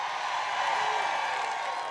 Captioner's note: applause